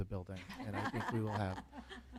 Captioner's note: laughter